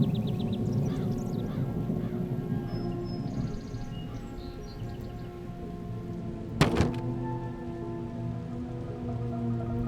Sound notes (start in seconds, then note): 4.0 thunder clapping